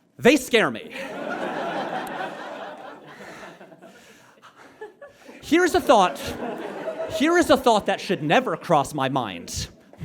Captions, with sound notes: They scare me. (audience laughs) Here's a thought— (audience giggles) Here is a thought that should never cross my mind: